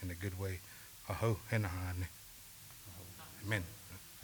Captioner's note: speaking Cheyenne